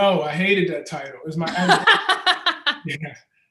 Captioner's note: laughs